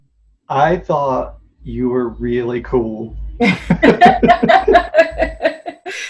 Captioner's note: laughs